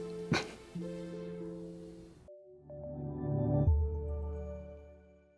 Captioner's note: chuckles; warm instrumental music